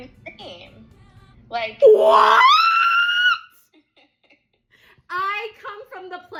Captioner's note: laughs